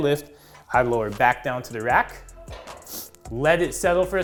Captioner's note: instructor inhaling